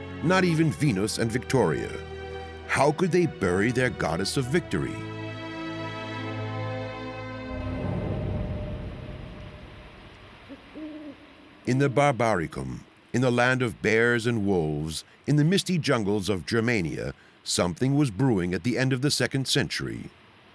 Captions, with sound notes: Not even Venus and Victoria. How could they bury their goddess of victory? [owl hooting] In the Barbaricum, in the land of bears and wolves, in the misty jungles of Germania, something was brewing at the end of the second century.